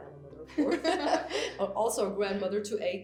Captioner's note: both laugh